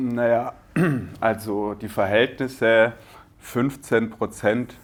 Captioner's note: clear throat